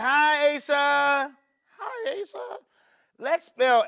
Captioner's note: high-pitched voice